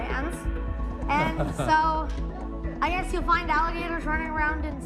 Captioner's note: light laughter